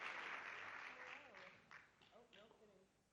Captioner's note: speaks off-microphone